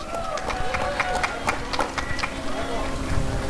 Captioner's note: applause and cheering